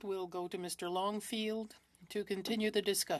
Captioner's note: speaking French